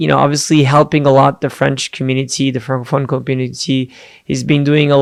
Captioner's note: foreign language